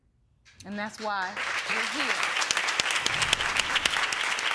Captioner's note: audience applauding